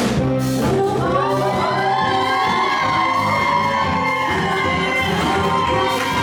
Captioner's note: everyone cheering and clapping